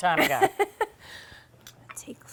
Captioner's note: laughing